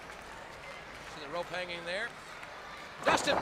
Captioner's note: crowd chatter